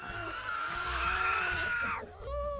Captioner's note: cubs screeching